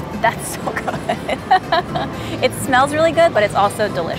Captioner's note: laughs